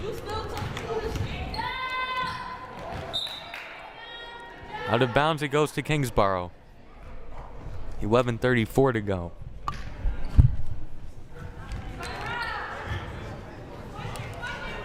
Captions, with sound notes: (crowd cheering) (whistle blaring) Out of bounds it goes to Kingsborough, 11:34 to go. (crowd murmuring)